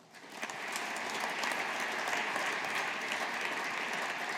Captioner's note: audience applauding